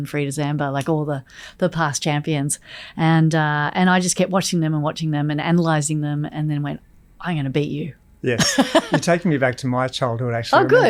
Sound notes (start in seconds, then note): 8.3 Layne laughs